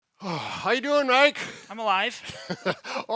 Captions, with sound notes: - (exhaling forcefully) How you doing, Mike? - I'm alive.